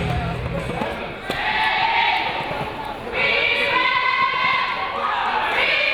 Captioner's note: audience and team chanting